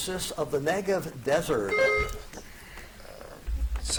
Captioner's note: buzzer buzzes